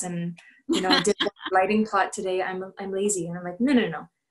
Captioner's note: laughter